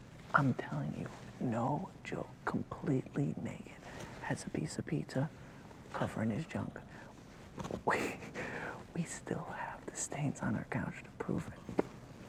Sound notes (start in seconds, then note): 7.8 laughs